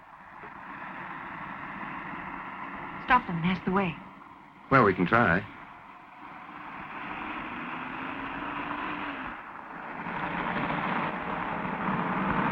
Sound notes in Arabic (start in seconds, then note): 0.2 صوت المحرك; 6.6 صوت المحرك